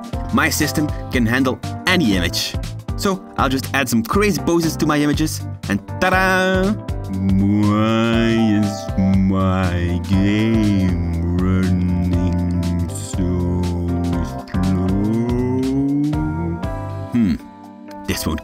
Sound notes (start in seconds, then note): 8.8 talk very slow